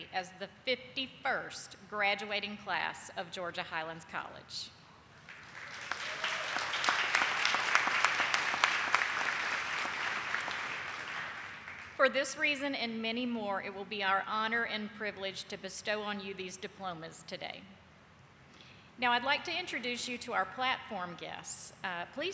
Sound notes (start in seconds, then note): 5.2 audience applauding